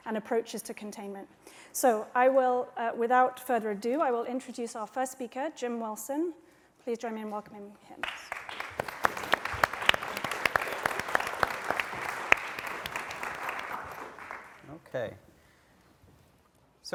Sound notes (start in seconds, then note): 8.0 applause